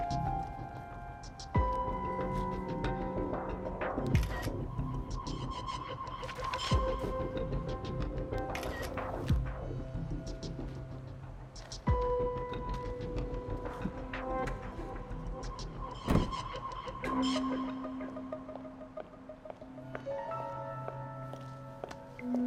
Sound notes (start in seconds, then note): 0.0 tense music continues; 4.2 camera shutter clicking; 12.1 tense music continues; 16.0 door clicking